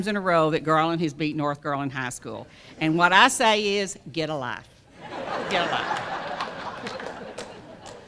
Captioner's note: laughter